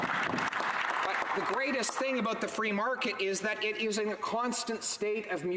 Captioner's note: some Applause